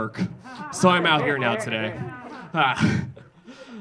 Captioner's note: audience laughing